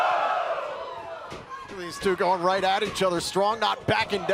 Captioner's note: crowd chatter